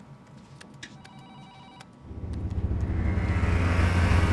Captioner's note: phones ringing